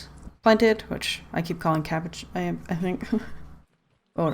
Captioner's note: laughs